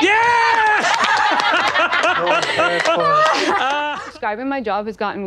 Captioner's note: all clapping and laughing